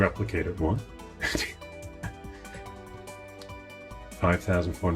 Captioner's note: laughing